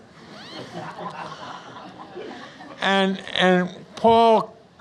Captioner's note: audience Laughs